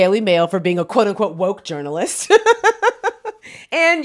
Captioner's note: laughs